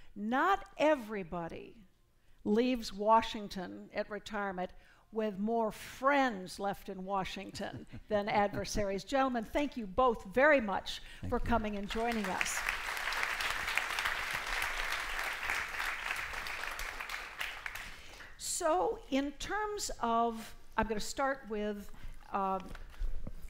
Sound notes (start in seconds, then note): 11.8 applause